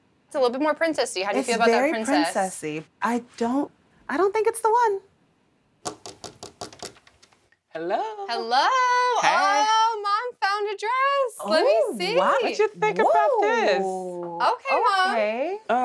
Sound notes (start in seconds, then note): 5.8 tapping at door